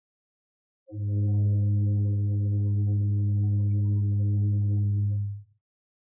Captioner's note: ship horn blows